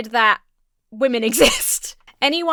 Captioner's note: laughs